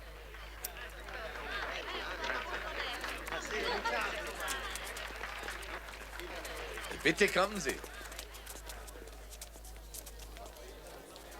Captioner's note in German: applaus